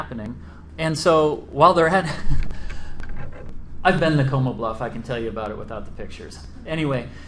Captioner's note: laughs